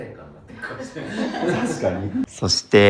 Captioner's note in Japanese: 笑い